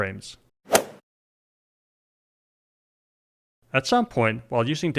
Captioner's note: golf swing sound effect